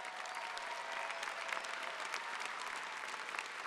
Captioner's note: applause